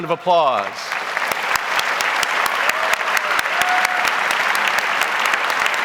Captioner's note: audience applauds